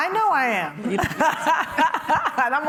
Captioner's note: laughs